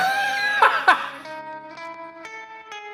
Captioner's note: laughing; upbeat suspicious music